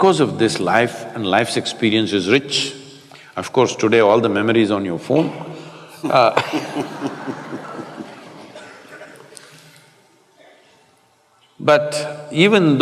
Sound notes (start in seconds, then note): 5.9 Matthew laughs